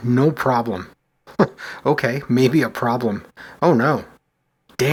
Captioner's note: chuckles